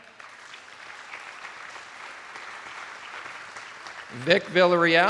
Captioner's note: attendees applauding